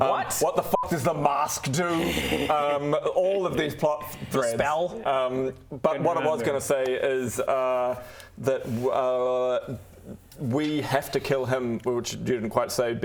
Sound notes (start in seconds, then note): 1.9 evil laugh